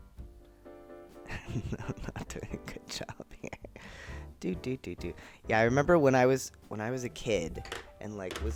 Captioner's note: laughing